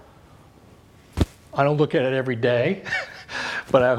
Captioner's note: laughs